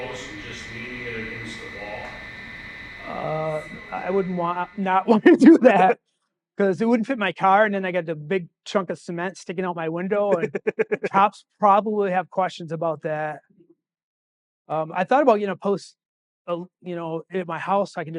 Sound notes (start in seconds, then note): 10.0 laughing